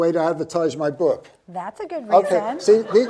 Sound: audience laughs

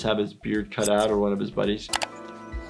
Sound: scissors snip

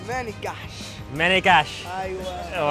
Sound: speaking in foreign language

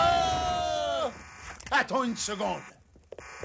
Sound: alarm buzzing

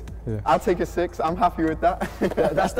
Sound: chuckle

